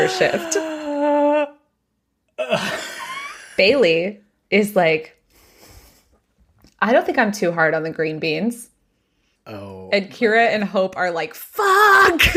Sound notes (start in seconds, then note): 2.4 gasps